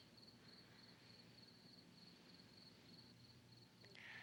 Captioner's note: crickets chirping